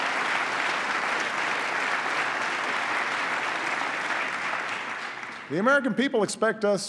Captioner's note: applause